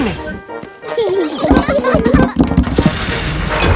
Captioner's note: children giggling